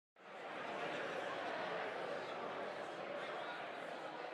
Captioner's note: background chatter